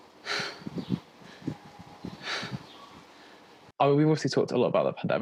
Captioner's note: breathing heavily